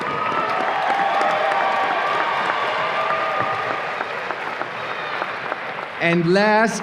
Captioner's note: audience applause and cheers